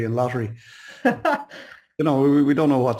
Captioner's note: chuckles